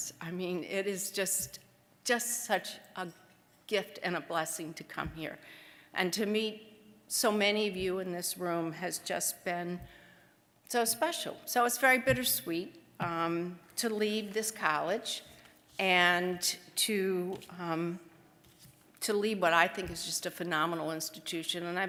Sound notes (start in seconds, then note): none